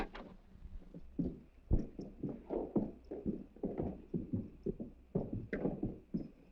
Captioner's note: footsteps